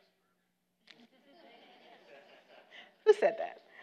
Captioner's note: audience laughter